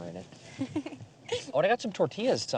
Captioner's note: laughs